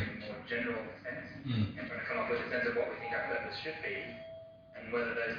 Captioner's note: audio distorts